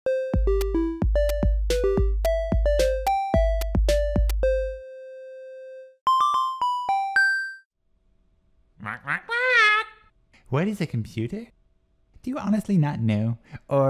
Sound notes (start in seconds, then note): 8.8 squawks